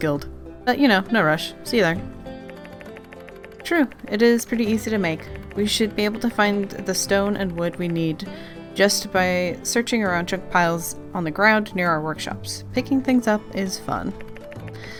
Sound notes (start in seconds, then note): none